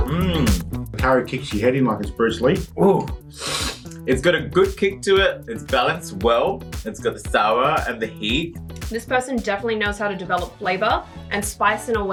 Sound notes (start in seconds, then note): 3.3 sniffles